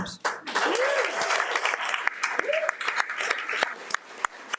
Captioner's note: audience applauding